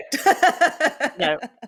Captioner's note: laughs